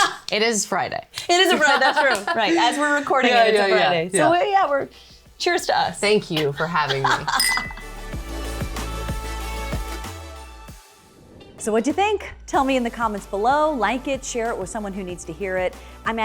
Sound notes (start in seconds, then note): 1.3 laughs; 6.8 laughs; 8.2 upbeat music